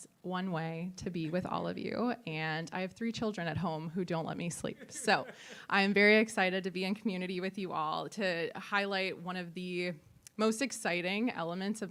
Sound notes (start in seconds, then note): 4.7 attendees laughing